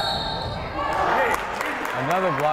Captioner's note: whistle blowing; yelling